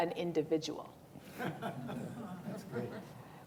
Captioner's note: laughter